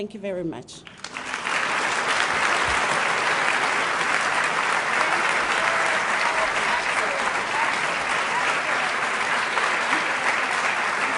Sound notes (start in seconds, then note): 5.4 applause